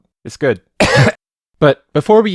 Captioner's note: coughs